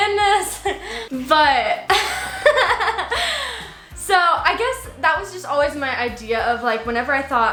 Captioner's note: laughs